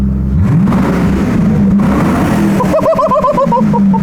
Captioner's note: engine revving